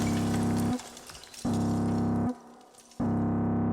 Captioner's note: rubble falling; alarm sounding